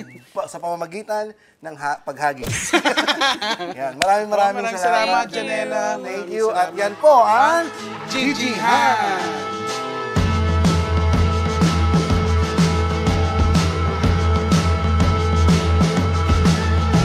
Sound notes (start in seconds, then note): 2.5 laughter; 9.9 theme music playing